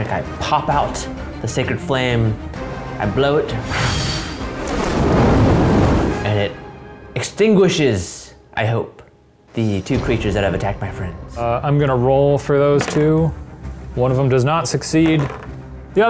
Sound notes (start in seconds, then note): 3.6 whoosh